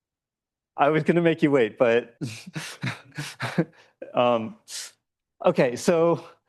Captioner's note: laughs